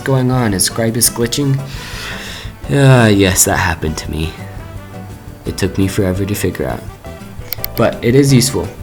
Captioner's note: sigh